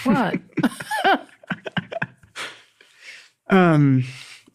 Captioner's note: both chuckling